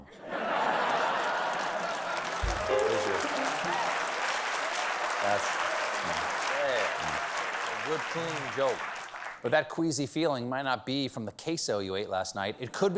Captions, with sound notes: ONE. ( LAUGHTER ) ( PIANO RIFF ) BUT THAT QUEASY FEELING MIGHT NOT BE FROM THE QUESO YOU ATE